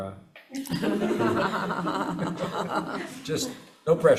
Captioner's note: everyone laughing